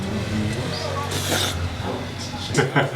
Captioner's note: slurp; laughter